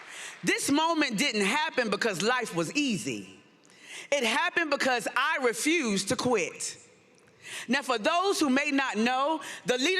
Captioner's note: applause